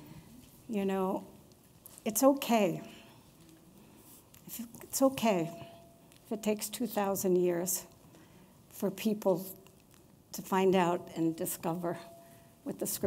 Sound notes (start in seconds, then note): none